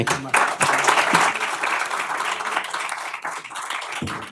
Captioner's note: applause